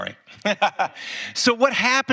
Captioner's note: Tony laughs